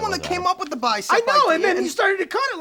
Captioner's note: beeping